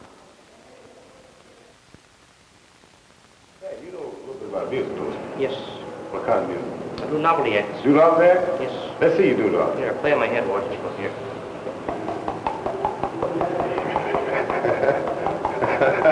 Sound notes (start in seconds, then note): 11.6 speaker 1 taping on his head